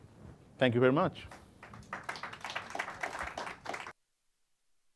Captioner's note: applause